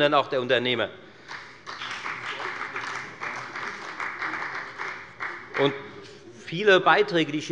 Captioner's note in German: Beifall bei der FDP und bei Abgeordneten der CDU